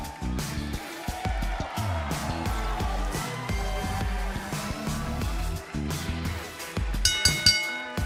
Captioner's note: cheers and applause; bell ringing